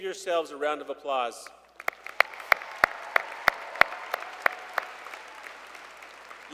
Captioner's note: applause